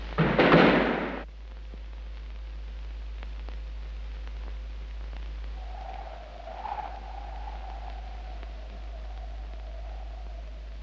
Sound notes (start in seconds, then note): 5.4 wind howls